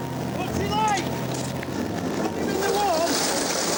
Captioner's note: waves roaring